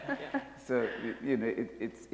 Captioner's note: laughter